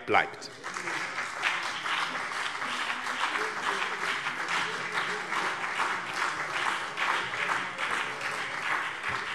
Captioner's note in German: Beifall BÜNDNIS 90/DIE GRÜNEN